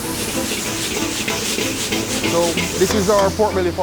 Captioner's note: sizzling